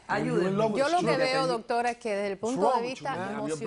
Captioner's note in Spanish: hablan al unisono